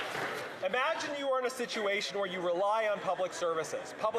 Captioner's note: some Applause